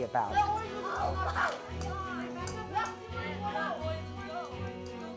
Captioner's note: children laughing